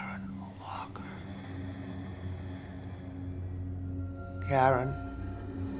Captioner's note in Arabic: صعوبة في التنفس